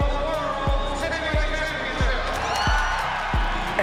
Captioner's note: cheering